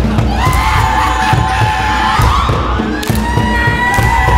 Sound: ominous singing in Latin; stomping; shrieking, laughing; clapping, stomping; forceful drumming; shrieking

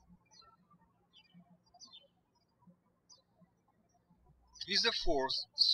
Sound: birds chirping

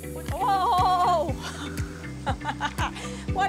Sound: chuckles

